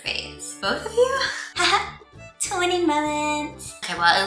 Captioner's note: affectated voice